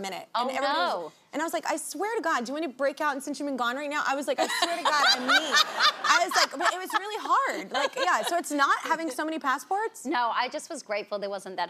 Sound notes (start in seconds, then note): 4.4 laughs; 4.4 audience laughing